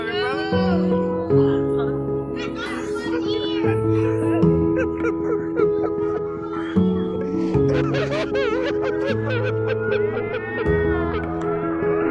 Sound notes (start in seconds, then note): 5.2 crying